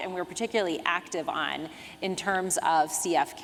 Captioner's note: none